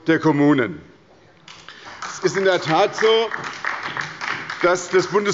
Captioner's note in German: Beifall bei der SPD und der LINKEN